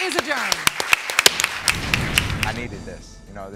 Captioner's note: applause; gavel bangs